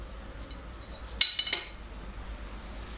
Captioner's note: light rattling sound